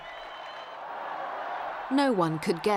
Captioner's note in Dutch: menigte juicht